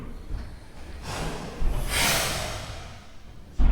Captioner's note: door slams shut